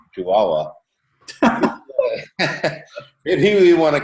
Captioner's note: chuckles